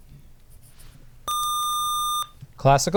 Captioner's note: buzzer